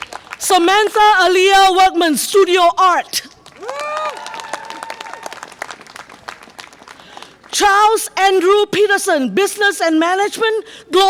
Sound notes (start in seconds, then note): 3.4 audience applause and cheer